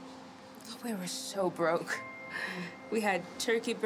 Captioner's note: laughs